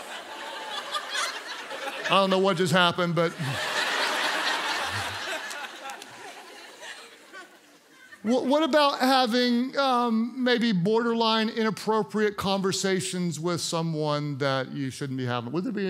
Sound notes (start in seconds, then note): 3.5 congregants laugh